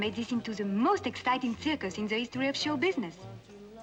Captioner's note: none